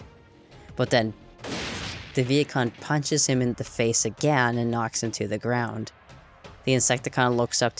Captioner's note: bang!